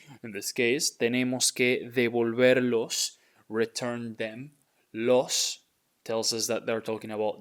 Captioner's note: speaking in Spanish